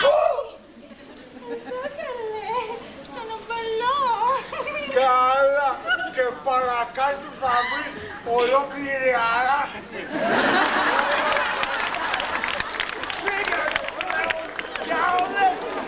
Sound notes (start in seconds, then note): 4.4 γέλιο